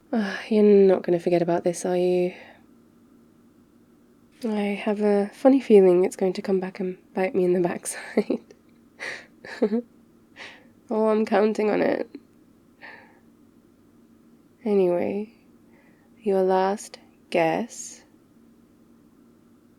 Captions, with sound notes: uhh, you're not going to forget about this, are you? I have a funny feeling it's going to come back and bite me in the backside *laughs* oh, I'm counting on it anyway, your last... guess...